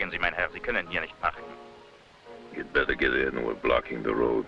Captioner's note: officer speaking foreign language